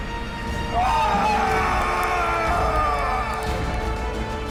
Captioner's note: screams